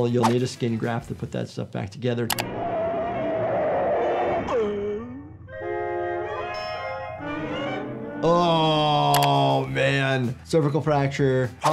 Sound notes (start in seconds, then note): 2.8 tires screeching, Tom groaning